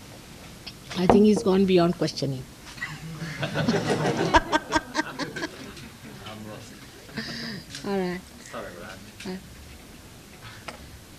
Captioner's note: laughs